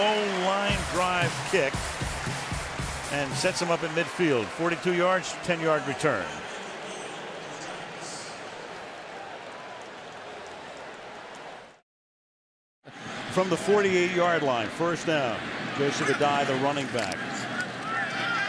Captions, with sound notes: So a low line drive kick and sets him up in midfield. 42 yards, 10-yard return. [pa announcement] From the 48-yard line, first down. Joseph Addai, the running back.